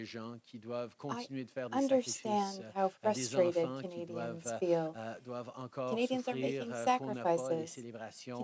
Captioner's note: speaking French